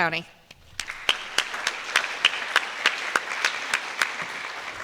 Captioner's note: applause